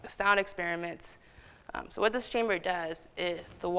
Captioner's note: none